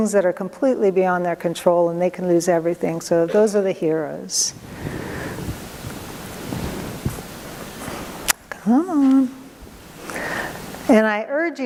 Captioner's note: mutters "come on"